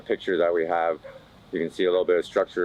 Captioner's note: dog Barking